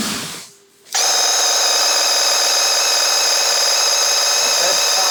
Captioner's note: paint gun blasting